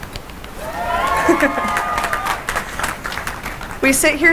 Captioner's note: cheering and applause